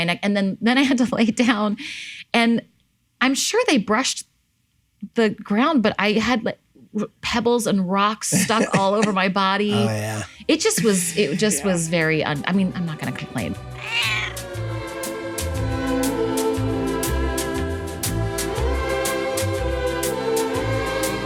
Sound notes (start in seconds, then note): 13.7 cat meowing; 14.3 relaxing instrumental music